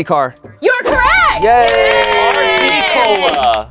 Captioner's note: audience applauds